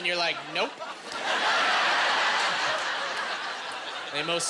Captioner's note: laughing